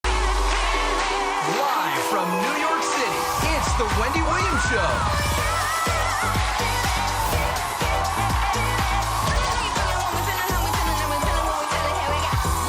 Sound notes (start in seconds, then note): 0.3 upbeat music; 6.1 audience cheers